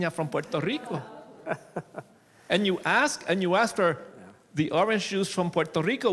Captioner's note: laughs